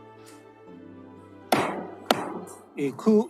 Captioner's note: gavel bangs twice